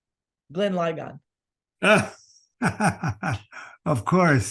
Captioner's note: laughter